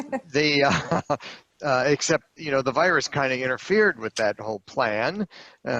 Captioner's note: laughter